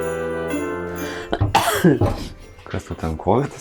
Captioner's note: coughing in Lithuanian